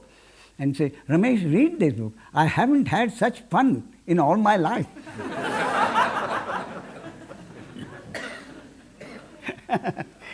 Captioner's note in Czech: smích